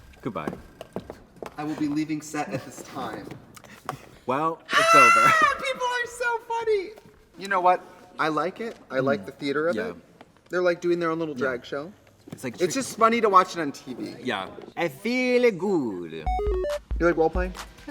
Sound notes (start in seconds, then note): 4.7 Trixie screams